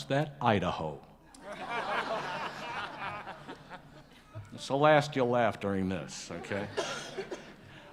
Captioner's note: laughter